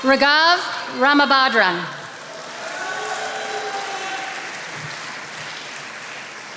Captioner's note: attendees applauding